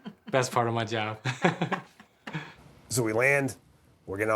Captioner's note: chuckles